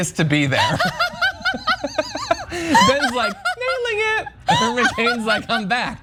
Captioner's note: laugh